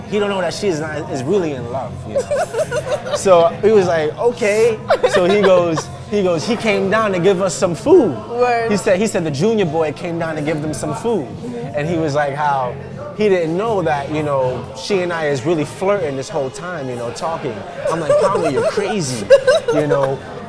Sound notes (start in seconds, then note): 2.1 laughing